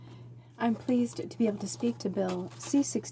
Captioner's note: speaking French